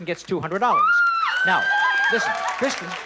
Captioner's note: screams